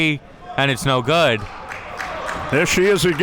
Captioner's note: spectators applauding